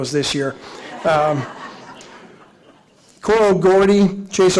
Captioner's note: audience laughing